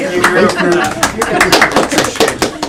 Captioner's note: applause